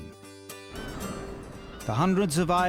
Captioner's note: gentle music; seagulls squawking